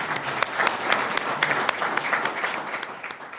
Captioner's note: audience applause